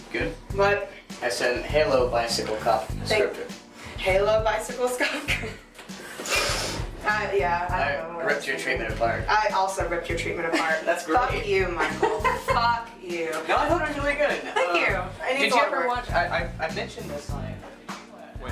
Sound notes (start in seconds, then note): 5.0 laughs; 11.8 laughs